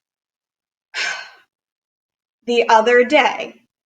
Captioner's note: sighs